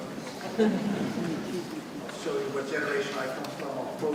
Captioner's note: audience laughing